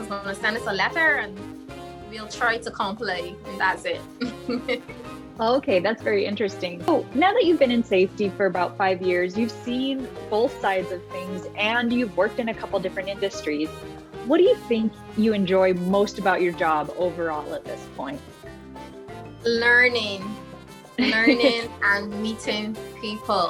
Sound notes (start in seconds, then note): 4.2 laughs